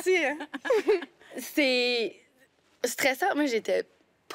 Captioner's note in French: rires